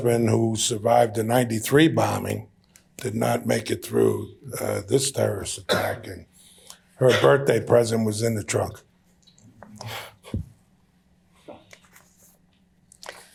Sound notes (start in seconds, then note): 9.8 gasps